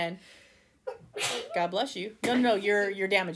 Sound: sneeze

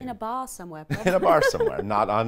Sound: laughs loudly

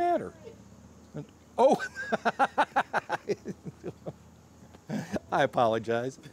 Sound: laughter

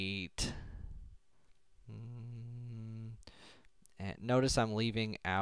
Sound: humming

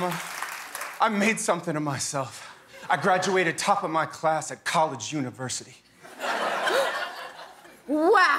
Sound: cheers and applause

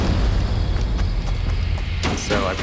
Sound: grass crunching

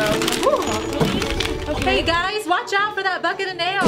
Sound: rustling wrappers

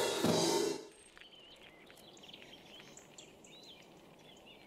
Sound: birds chirping

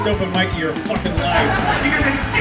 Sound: crowd laughing

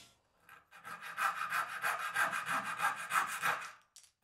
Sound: handsaw scrapes

